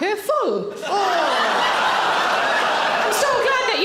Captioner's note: audience laughing